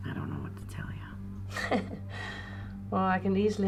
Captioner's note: chuckles